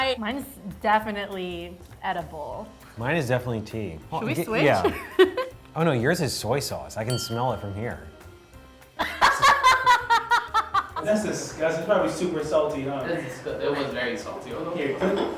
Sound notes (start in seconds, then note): 9.0 laughing